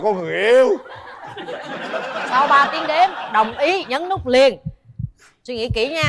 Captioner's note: laughter